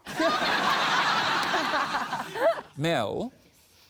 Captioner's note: laughter